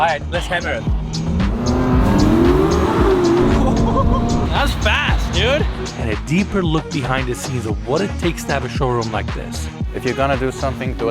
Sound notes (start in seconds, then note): 1.7 car engine revving; 3.2 laughs